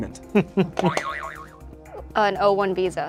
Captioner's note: laughs; buzzer buzzes